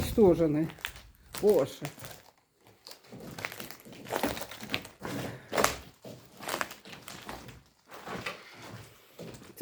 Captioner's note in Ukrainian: хрускіт під ногами